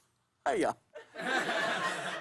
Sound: laughter

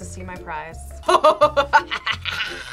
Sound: evil laughter

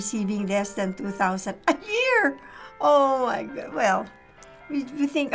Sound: scoffs

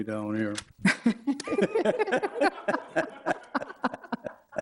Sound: all laughing

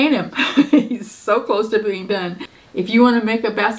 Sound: chuckling

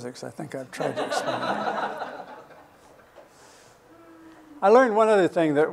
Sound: laughter

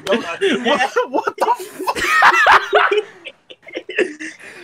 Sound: laughing; laughs harder

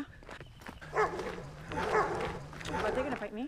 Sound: dog barks

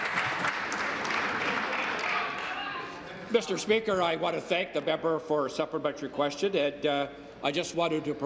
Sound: applause

